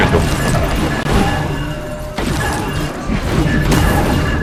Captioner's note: sound of murdering